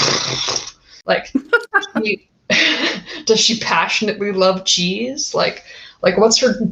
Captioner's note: laugh